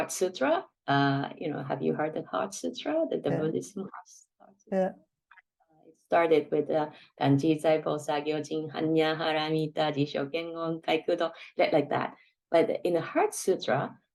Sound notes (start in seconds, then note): 8.0 speaking Japanese